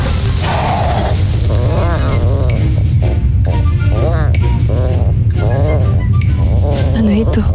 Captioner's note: egg shatters; pleasant music playing; soft growl